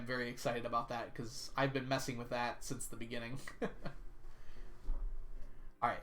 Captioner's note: laughs